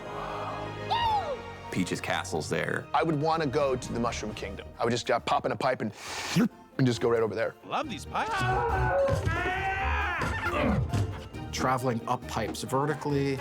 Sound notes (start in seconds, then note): 0.2 crowd gasps; 6.0 slurps; 8.2 screaming